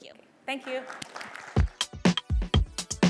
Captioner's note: applause